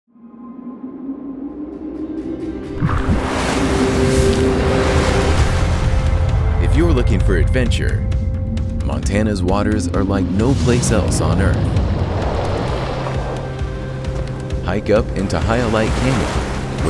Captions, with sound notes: (wind blows) (water rushes) - If you're looking for adventure, Montana's waters are like no place else on Earth. Hike up into Hyalite Canyon,